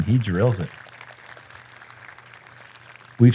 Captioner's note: applause